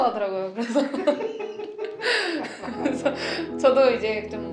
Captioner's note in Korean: 박장대소